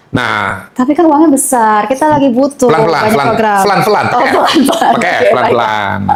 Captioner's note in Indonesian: tertawa